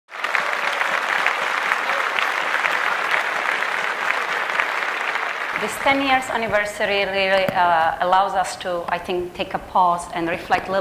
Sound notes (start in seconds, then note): 0.0 applause